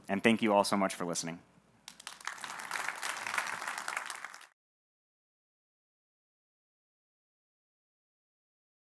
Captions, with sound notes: And thank you all so much for listening. (audience clapping)